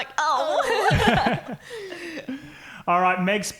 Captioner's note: laughing